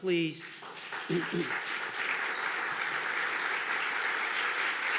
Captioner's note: audience clapping